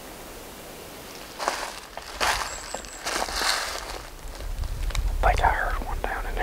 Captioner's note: walking